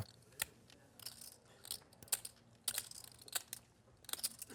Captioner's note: chips clatter